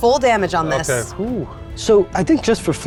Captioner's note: sighs